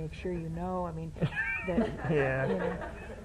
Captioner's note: laughter